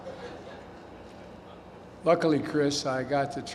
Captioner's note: laughter